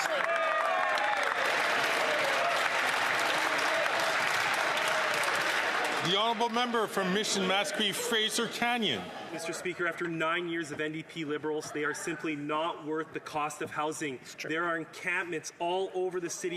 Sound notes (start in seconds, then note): 3.4 some Applause